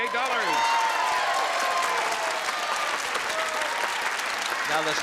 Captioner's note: applause and cheering